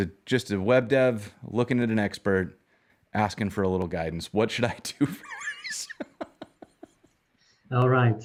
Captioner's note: laughing